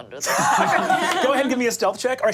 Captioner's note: group laughing